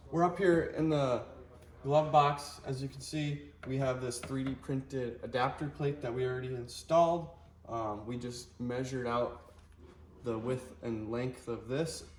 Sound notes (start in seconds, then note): 3.7 finger tapping